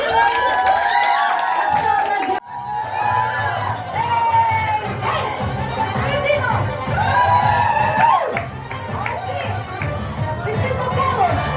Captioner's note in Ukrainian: оплески; оплески